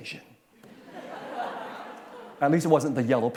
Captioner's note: laughter